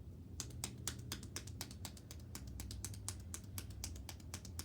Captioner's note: hands tapping